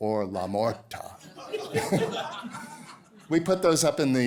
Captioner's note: laughter